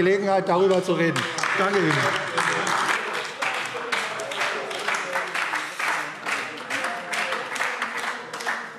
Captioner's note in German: Beifall AfD - Lebhafte Zurufe BÜNDNIS 90/DIE GRÜNEN und SPD